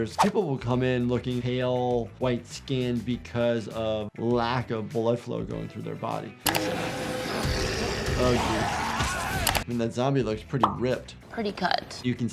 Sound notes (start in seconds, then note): 7.4 zombie snarling